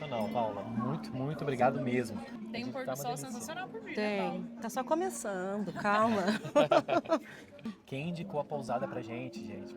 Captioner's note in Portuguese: risadas